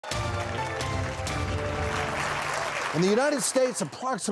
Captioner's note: audience applauds